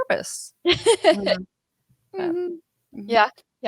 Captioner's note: laughing